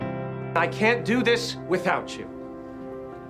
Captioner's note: voiceover